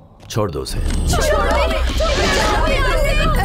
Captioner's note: screaming